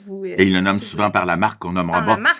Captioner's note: laughs